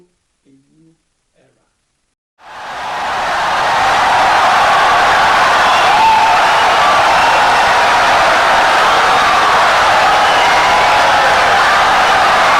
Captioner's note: wild applause and cheering for 17 seconds